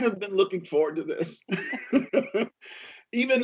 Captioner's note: laughter